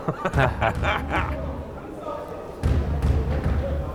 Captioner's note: laughing